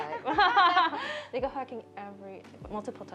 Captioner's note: laughs